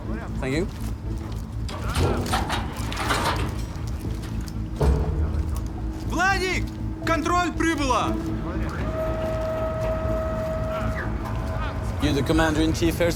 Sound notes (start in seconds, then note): none